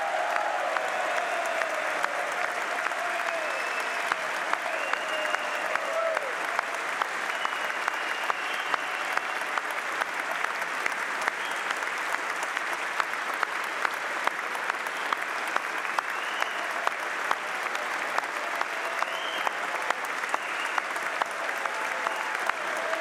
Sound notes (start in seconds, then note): 3.7 applause; 5.4 cheers